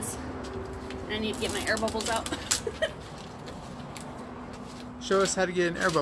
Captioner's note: laughs